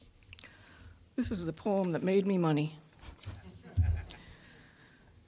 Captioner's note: audience laughing